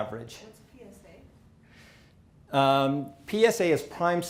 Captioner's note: person talking quietly